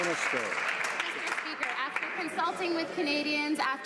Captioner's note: some Applause